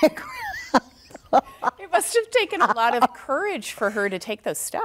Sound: laughs

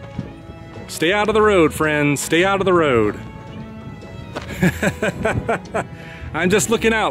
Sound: laughs

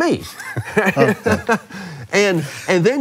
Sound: both laugh

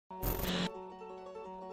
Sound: static; melodic music

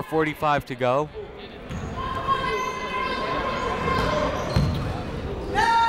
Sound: people shouting in the crowd

